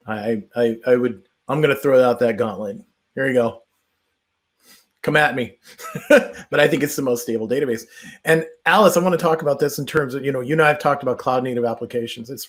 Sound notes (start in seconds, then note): 5.6 chuckles